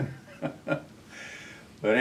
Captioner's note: laughs